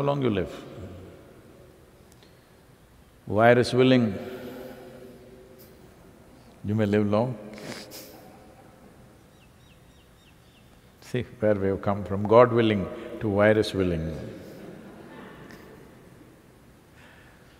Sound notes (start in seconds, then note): 5.9 laughs